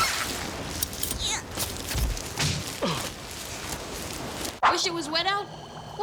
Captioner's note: thud, man grunts